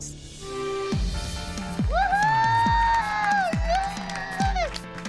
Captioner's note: cheering